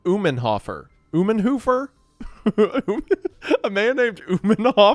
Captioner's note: laughing